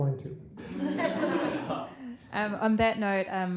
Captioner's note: laughter